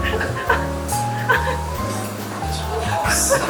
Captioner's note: laughs